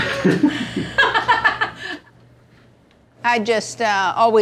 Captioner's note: laughing